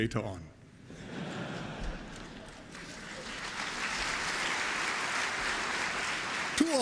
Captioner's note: applause